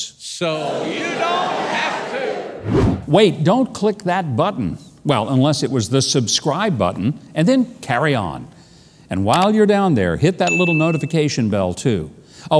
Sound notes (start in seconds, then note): 0.8 everyone exclaims in unison; 2.6 wind whooshing; 9.5 computer click; 10.5 bell chimes